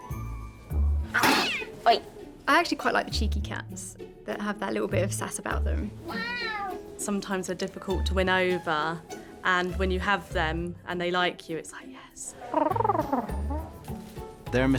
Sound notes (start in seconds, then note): 1.2 cat screeching; 6.0 cat meowing; 12.5 nurse purring